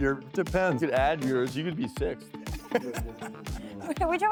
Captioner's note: laughter